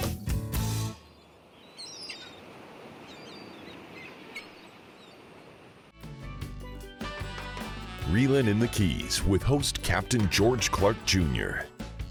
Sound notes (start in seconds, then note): 1.0 waves lapping; 1.5 seagulls screech; 5.9 caribbean music